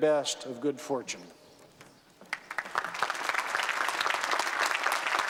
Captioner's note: applause